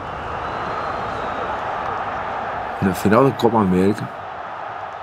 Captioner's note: crowd cheering